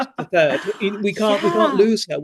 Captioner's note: laughs